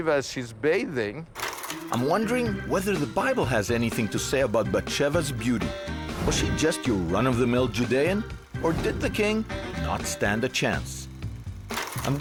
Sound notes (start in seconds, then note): 1.3 film rolling